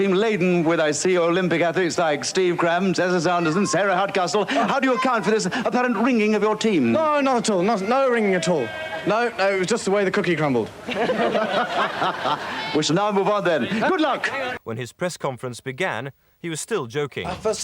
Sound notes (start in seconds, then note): 10.8 all laughing